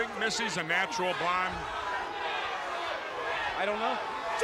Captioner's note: crowd chatter